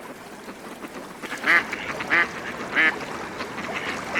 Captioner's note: quacking